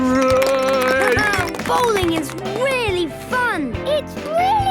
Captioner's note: clapping, laughing